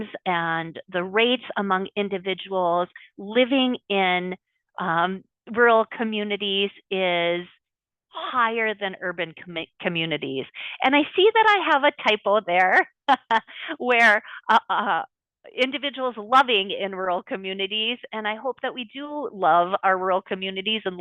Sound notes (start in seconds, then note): 12.7 laughs